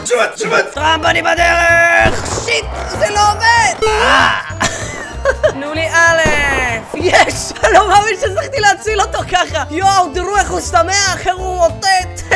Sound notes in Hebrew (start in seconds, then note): 3.8 צוחק